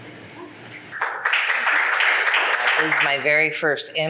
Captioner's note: audience applauds